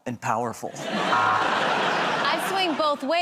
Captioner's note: laughter